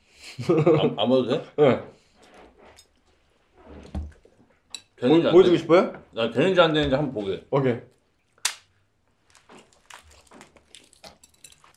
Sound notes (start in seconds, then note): 8.3 crack